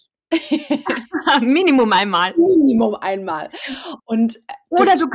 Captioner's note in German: lachen; lachen